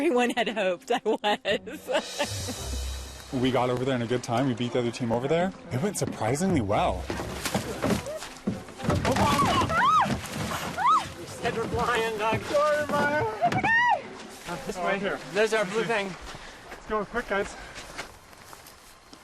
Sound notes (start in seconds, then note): 9.4 squealing